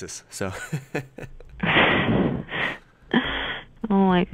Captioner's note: laughs